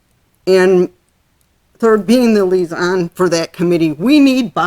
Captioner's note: voice muffled